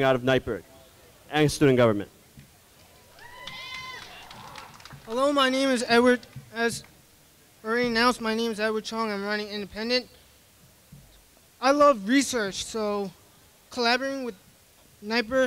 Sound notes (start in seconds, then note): 3.1 clapping and cheering